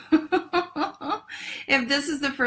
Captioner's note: laughs